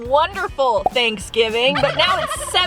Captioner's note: turkey gobbling